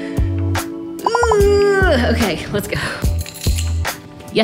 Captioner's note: groaning